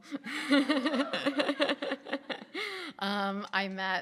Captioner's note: laughing